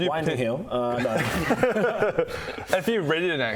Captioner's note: you'd better be joking laugh